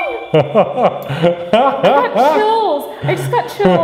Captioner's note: gasps and laughs